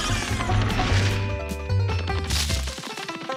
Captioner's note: man grunts; alien groans